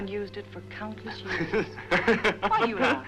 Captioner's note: Jason laughing